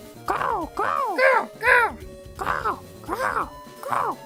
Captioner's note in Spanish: sonido de cuervo